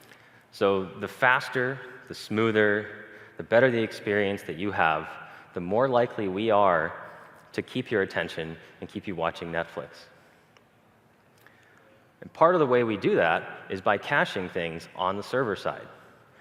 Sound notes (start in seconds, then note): none